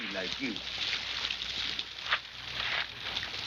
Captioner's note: water splashing